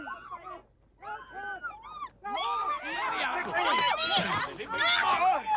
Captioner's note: Hullabaloos shouting